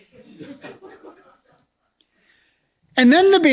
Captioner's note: laughs